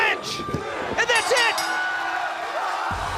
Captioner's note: bell